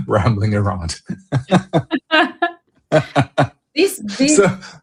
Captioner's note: laughter